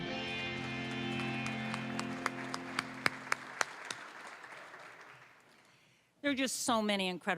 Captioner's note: applause